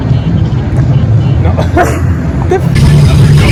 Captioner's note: laugh